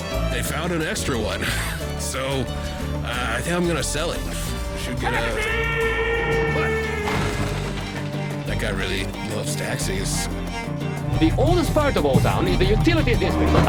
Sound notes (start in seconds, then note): 7.0 smash